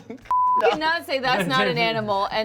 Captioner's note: beep